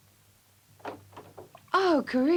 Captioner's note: door opens